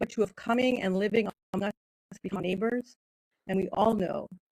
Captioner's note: speaking in foreign language